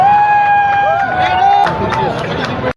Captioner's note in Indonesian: bersorak